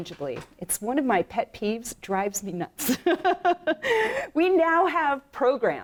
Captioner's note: laughs